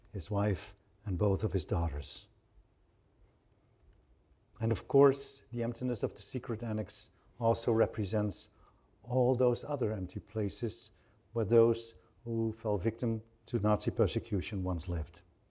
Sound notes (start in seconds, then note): none